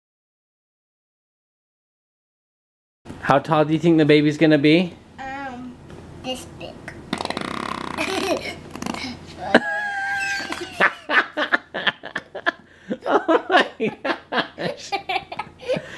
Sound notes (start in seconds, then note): 7.1 farting; 9.8 laughing